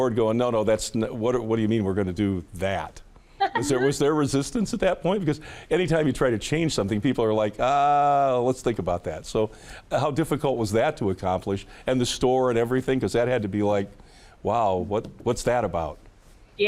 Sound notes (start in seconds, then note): 3.4 chuckling